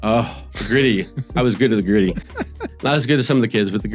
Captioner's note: laughs